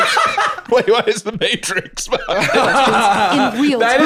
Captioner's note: laughing